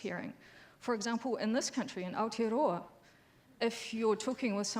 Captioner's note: speaks foreign language